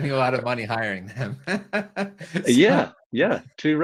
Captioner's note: chuckles